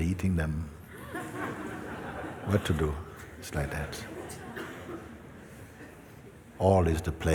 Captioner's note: laughter